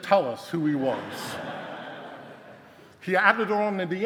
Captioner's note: audience laughing